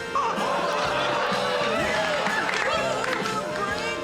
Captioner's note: laughter and applause